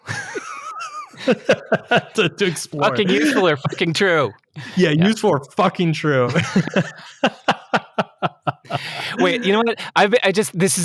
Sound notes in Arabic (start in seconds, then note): 0.0 يضحك; 6.1 يضحكون